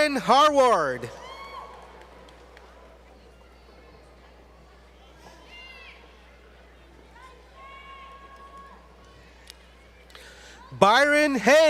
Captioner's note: faint Cheers From Audience